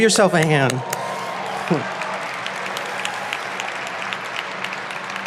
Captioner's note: audience applauding